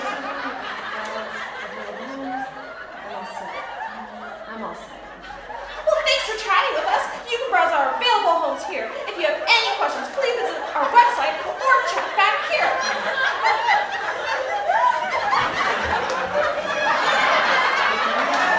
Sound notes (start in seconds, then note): 12.9 laughing